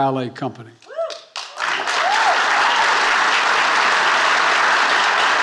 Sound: audiences cheer and applaud

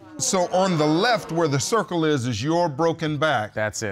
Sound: audience gasps

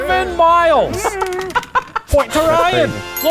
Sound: laughing

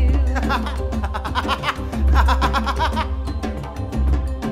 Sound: laughs

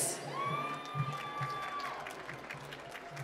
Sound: applause

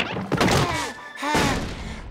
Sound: panting

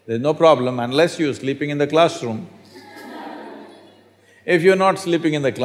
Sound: laughter

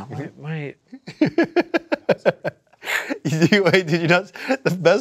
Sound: laughing

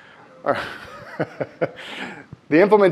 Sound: laughs

